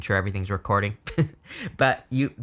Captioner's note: chuckling